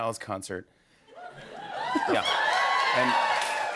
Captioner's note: audience cheers